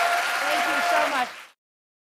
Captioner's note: applause